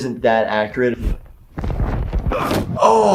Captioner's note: grabbing sound; groaning man